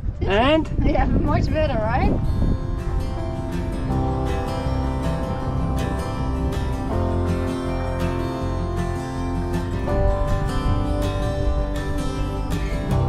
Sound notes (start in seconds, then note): 2.3 wind blowing; 2.6 upbeat music